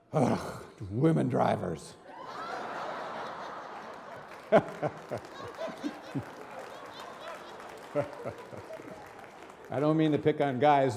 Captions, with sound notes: "Ugh, women drivers." (audience and reverend laughing) I don't mean to pick on guys,